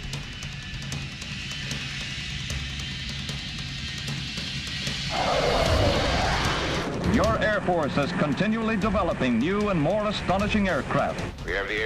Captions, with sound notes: [Music/Jet revving] [Jet flying over] >>Your Air Force is continuallyg new and more astonishing aircra.